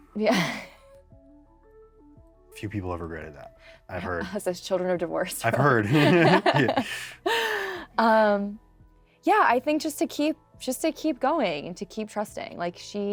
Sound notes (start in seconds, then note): 0.4 laughs; 5.8 both laugh